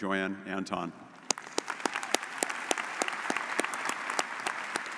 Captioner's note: audience applauding